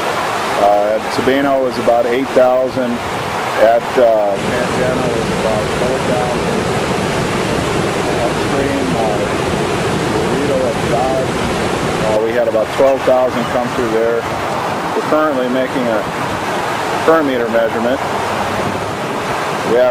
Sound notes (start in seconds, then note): 9.5 water rushing louder than talking